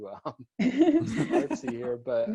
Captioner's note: laughter